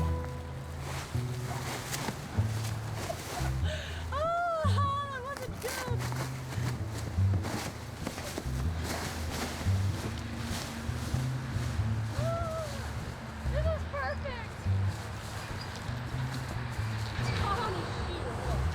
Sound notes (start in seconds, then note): 2.9 laughs; 11.7 squeals